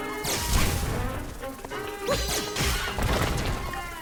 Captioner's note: dramatic orchestral music; lasers firing